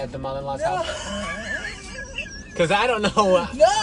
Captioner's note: laughing